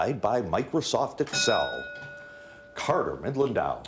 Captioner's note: bell dings